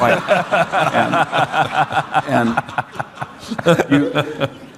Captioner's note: audience laughing